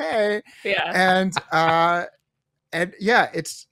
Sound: laughs

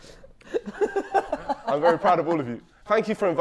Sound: Vikram laughing

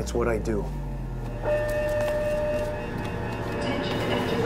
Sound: alarms blaring

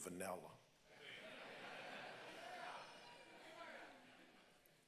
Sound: congregants laugh

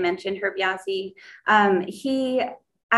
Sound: foreign language

